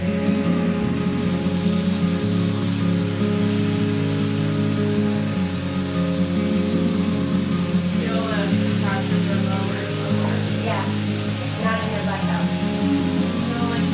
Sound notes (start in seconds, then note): 0.2 shower splashing; 3.5 soft music; 5.3 shower splashing